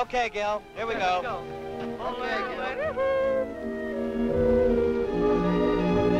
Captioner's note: people chattering